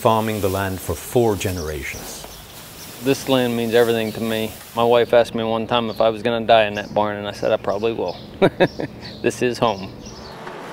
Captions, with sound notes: farming the land for four generations. This land means everything to me. My wife asked me one time if I was going to die in that barn, and I said I probably will. (Laughs) This is home.